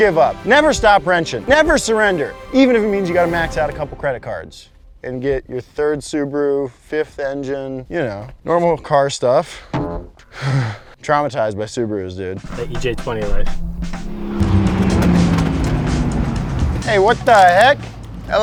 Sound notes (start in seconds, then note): 12.4 engine rumbles